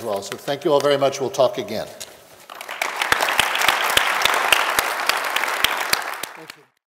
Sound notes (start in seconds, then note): 2.4 applause